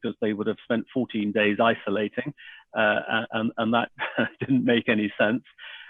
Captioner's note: laughs